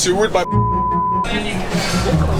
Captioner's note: beep